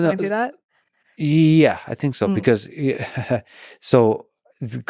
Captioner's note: chuckles